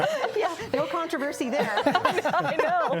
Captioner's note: panel laughs